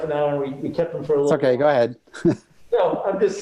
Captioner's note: chuckle